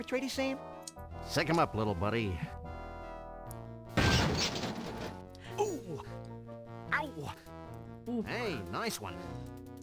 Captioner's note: cartoon punching noises